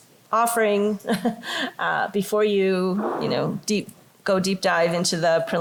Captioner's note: laughter